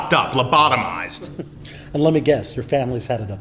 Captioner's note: laughs